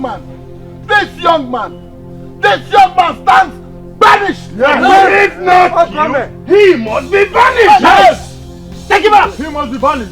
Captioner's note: screaming